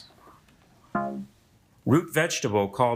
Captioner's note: buzzer beeping